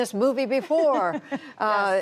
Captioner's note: laughter